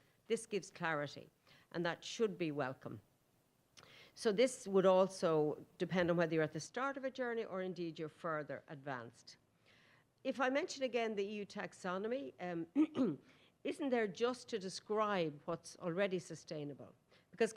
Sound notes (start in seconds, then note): 12.8 clears throat